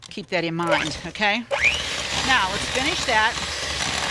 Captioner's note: mixer buzzing